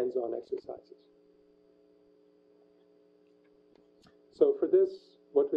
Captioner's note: pause